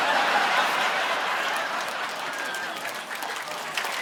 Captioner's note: audience laughing